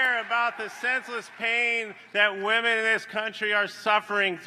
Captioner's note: applause